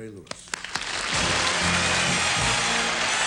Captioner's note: applause